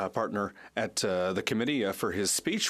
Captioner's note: speaking French